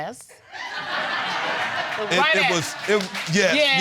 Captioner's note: audience laughing